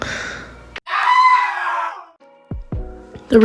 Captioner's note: exaggerated scream